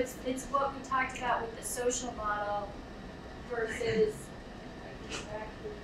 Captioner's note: speaking away from mic